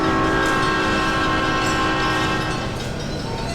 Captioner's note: SP Cab Car horn